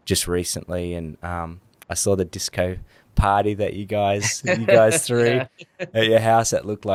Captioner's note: laughs